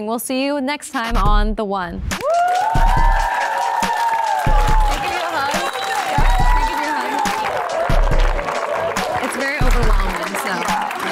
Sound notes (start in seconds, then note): 2.0 smooth music; 3.0 women cheering and clapping